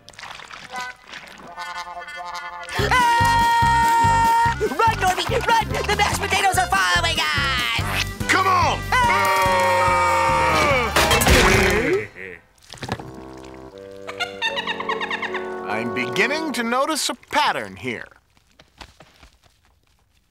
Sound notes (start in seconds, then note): 9.7 both yelling; 14.0 loud giggling